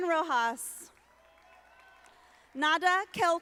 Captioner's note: audience applauding